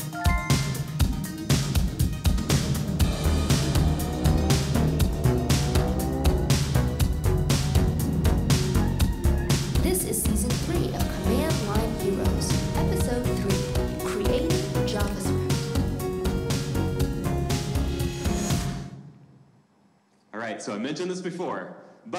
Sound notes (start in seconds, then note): 0.0 electronic chiming; 3.4 car engine roaring